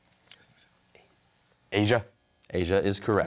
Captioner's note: whispers